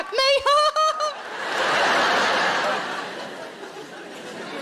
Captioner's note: laughing